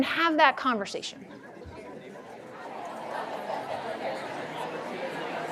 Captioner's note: audience chattering